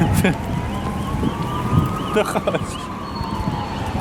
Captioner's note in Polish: śmiech